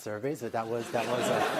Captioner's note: laughter